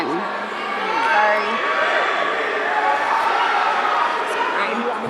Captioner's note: audience cheering